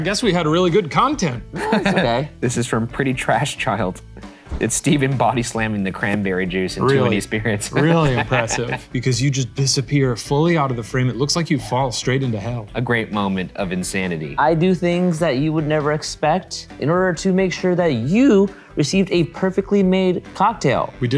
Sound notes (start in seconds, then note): 1.5 laughing; 7.6 laughs